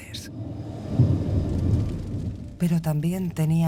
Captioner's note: thunder rumbling